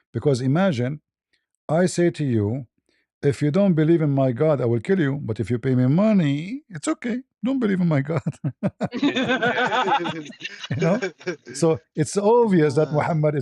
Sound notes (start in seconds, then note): 8.0 ketawa